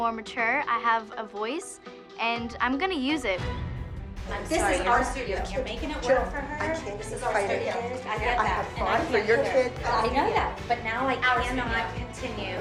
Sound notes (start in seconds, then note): none